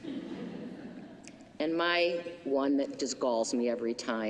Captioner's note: laughter